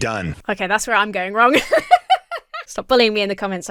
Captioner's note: laughs